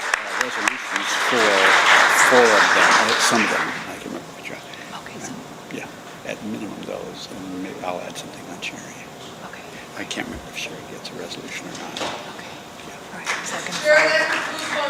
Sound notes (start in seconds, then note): 4.3 applause